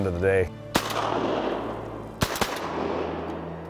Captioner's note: gun shots